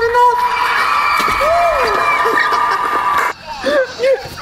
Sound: crowd screaming; laughing

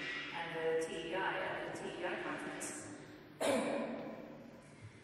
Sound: coughs

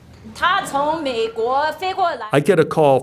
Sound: translator speaking in a foreign language

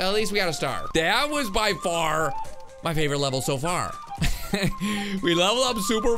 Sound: laughs

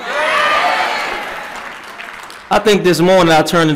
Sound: applause

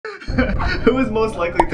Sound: laughing

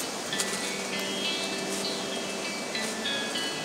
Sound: leaves crunching

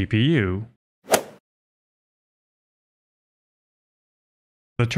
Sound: golf ball hit sound effect

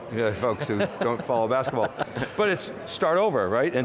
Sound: laughing

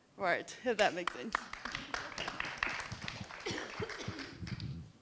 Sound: everyone clapping

